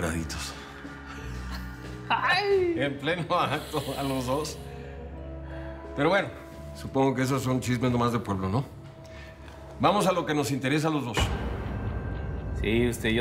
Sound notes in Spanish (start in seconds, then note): 2.2 risas y exclamaciones